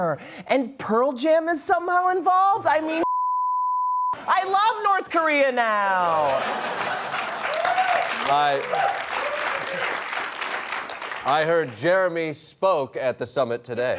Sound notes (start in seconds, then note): 6.2 laughter, applause, whooping